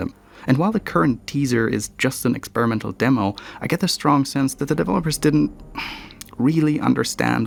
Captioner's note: sigh